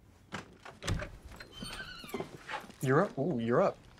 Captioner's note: door creaks open